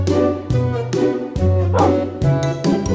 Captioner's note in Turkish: Havlama Sesi